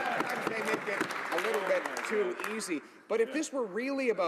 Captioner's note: some Applause